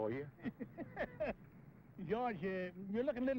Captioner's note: laughing